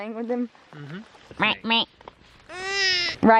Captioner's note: duck sounds